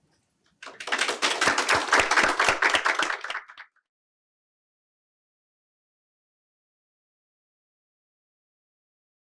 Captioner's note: applause